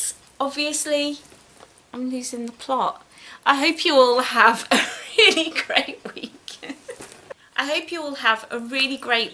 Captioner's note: laughs